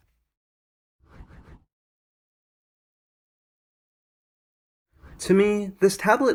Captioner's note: transition swooshes